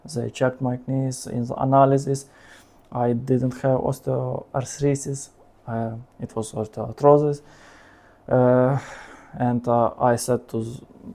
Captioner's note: sounds in Ukrainian